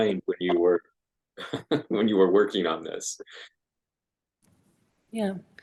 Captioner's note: laughs